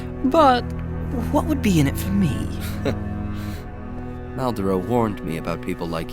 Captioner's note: chuckling